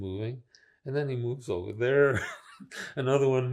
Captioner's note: laughing